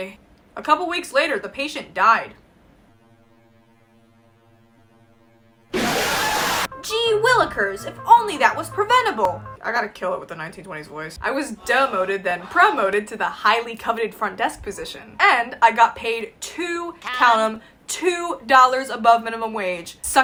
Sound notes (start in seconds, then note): 2.5 silence; 6.7 in a 1920s kiss ass voice